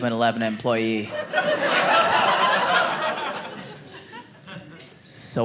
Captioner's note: audience laughing